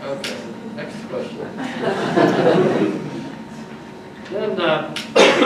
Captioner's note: audience laughs